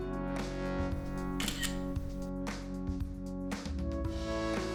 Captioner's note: camera clicks